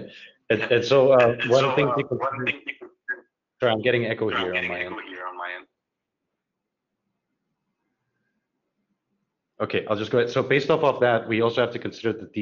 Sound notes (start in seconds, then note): 0.0 video echoes